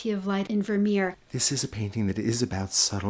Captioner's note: voiceover